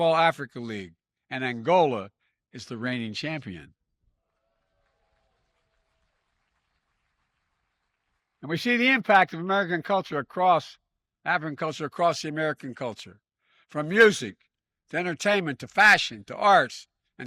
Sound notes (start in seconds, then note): 4.2 applause